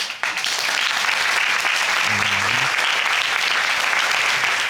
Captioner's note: audience applauding